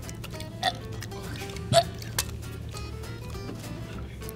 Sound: burping

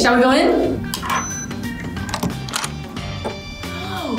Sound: beeps

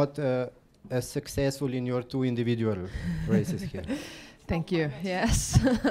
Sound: Tiril laughs

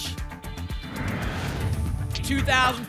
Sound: whoosh

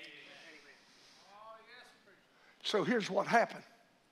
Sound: congregation murmurs in agreement

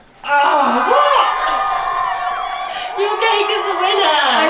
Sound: crowd cheering sound effect

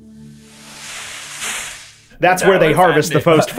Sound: leaves rustle

